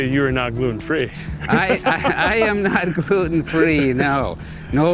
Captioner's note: laughs